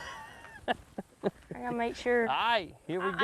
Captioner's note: man laughs